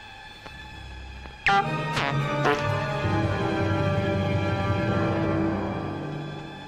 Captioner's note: sinister music; farts tooting